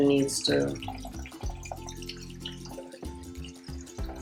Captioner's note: water trickling